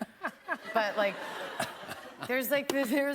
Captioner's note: laughter